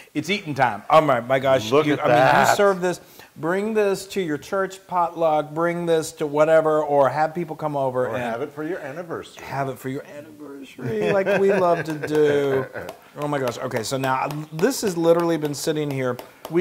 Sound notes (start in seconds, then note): 10.8 laugh